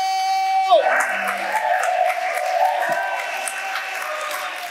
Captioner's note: audience applauding & cheering